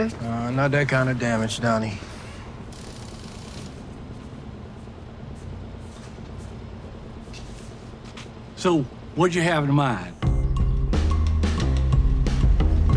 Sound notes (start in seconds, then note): 2.7 tools whirring; 10.2 upbeat music